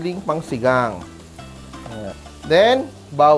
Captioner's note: sizzle